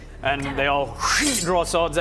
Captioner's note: shing